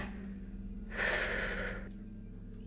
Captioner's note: sigh